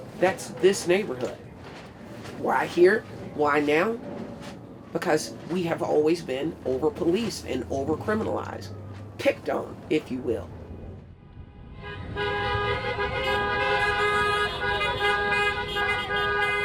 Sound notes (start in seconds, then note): 11.3 horns honking